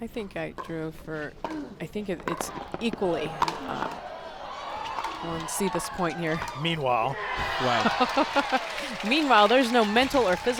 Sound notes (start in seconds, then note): 6.3 chuckles; 7.3 crowd applauds; 8.1 chuckles